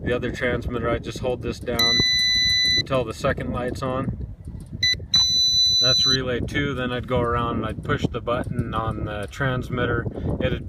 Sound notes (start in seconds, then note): 1.8 beeps; 5.0 beeps twice